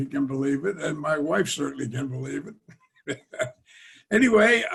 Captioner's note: laughs